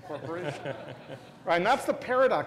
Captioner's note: laugh